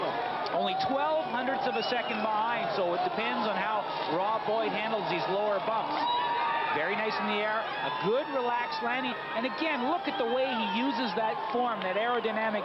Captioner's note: cheering